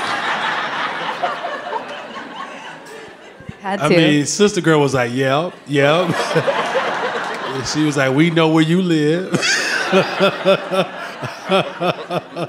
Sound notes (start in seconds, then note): 0.0 audience laughing; 5.7 audience laughing; 9.0 laughs